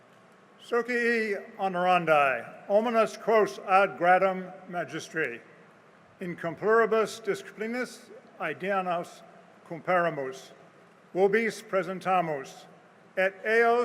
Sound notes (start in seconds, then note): 1.6 speaking latin